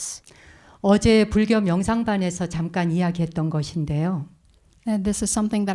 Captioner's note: speaking in Korean